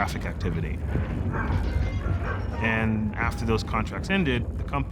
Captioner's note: dogs barking and whining, objects clattering